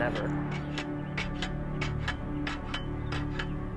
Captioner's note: metal clanging